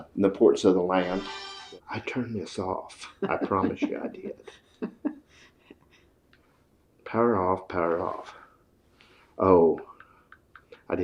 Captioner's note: phone rings